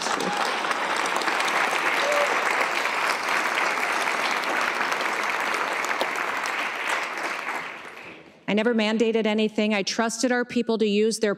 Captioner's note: cheers and applause